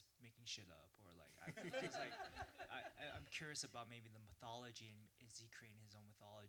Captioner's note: laughter